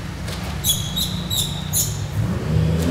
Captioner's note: squeaking noises